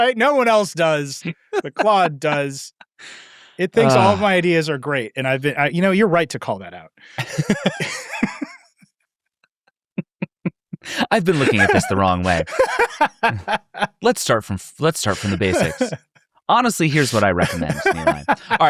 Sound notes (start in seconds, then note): 7.1 people laughing; 12.7 laughing